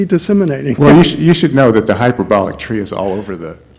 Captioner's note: voiceover